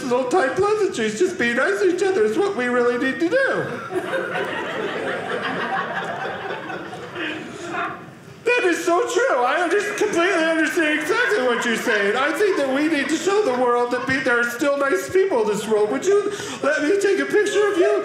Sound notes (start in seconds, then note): 3.6 audience laughing